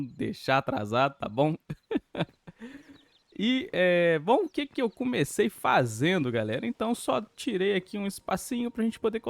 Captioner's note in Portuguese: risadas